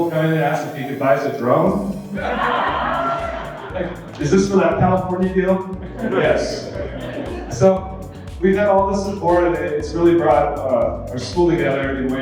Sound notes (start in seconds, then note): 2.0 audience laughing